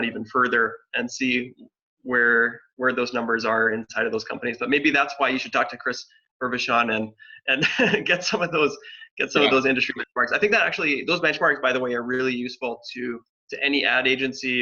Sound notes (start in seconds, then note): 7.5 laughs